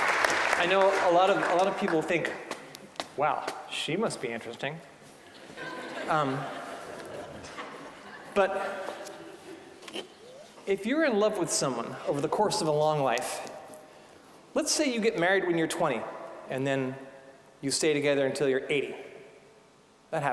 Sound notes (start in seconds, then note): 0.0 applause; 5.3 audience laughing